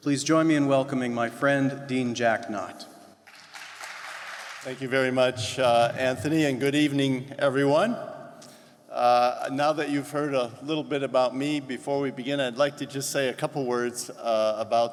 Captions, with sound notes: Please join me in welcoming my friend, Dean Jack Knott. (audience applause) - Thank you very much, Anthony, and good evening everyone. Now that you've heard a little bit about me, before we begin, I'd like to just say a couple words